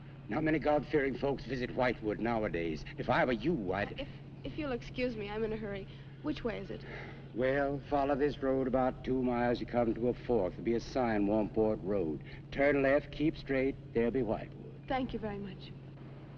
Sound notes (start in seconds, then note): 6.8 sighs